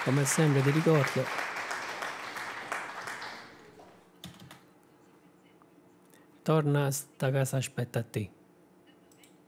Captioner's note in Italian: Applauso